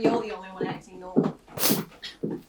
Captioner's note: snort